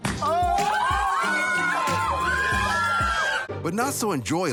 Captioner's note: family cheers